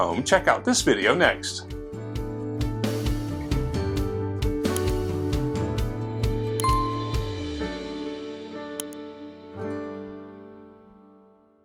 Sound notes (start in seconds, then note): 1.8 light music; 6.6 bell chimes